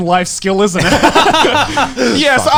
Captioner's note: all laughing